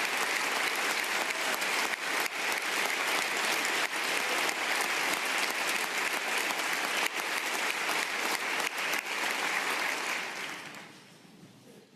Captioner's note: applause